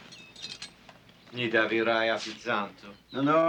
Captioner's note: russian